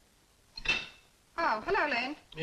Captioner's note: silverware clinks